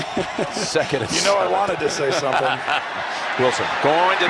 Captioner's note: Tony chuckling; Jim laughing